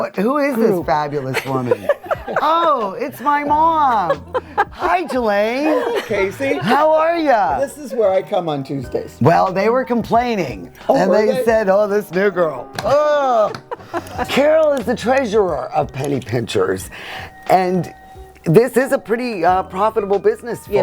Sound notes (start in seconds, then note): 1.2 ladies laughing; 13.4 ladies laughing